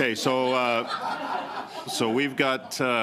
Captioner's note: laughter